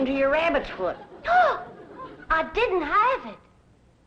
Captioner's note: gasps